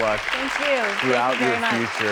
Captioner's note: audience applauding